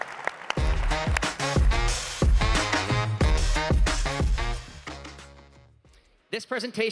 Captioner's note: applause